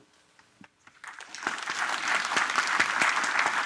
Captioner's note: applause